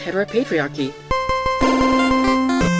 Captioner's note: chime; game show music